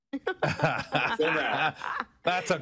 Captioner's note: laughter